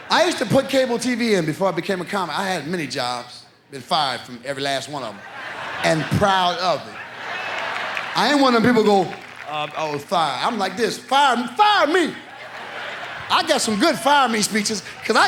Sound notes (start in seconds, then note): 7.2 audience laughs